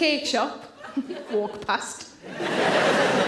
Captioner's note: chuckles; audience laughing